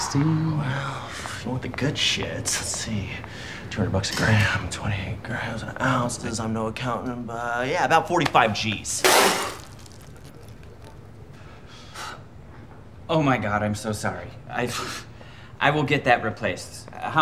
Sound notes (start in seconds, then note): 8.5 coffee sputters